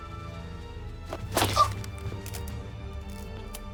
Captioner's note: chokes